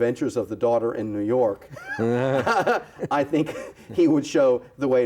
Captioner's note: laughs